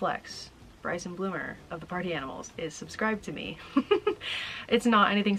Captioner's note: laughing